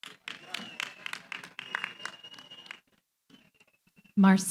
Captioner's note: applause